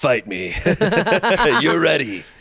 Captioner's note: everyone laughs